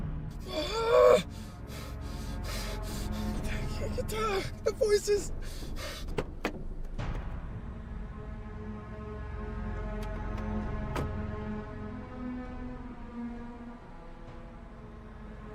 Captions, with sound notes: - (groaning) I can't tell, the voices. (car door shut)